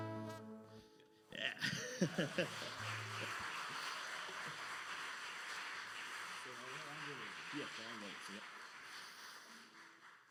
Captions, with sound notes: - Yeah! (laughs) (audience applauding) - So now "Angelozni." - Yes, "Angelozni," yep.